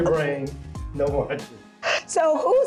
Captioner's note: laughing